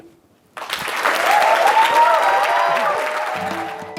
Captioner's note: applause